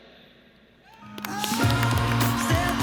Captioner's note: everyone claps and cheers